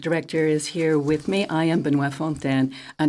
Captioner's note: speaking French